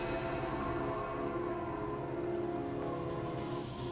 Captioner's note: wind whistling